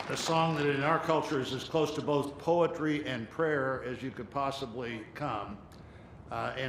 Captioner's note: applause